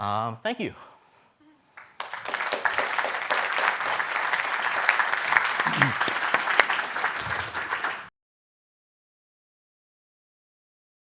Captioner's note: applause